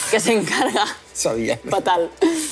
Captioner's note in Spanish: Risas